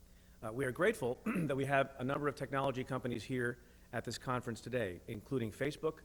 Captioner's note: clears throat